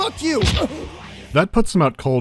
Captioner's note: thwack